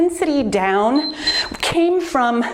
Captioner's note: timer beeps